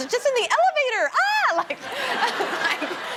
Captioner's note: laughter